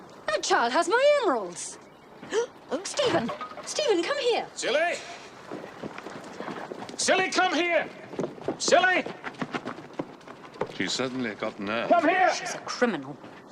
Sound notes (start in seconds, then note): 2.0 gasp